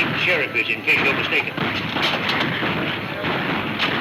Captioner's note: gunfire pops